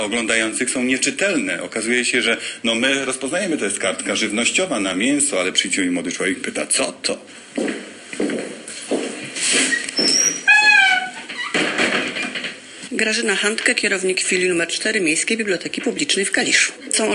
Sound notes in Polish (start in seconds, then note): 10.4 kroki, dźwięk zamykania drzwi